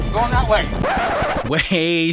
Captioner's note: record scratching